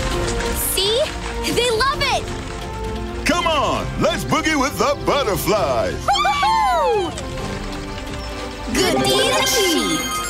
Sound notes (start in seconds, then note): 6.0 cheering; 8.7 bell ringing